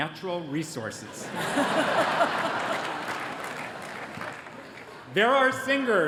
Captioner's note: laughter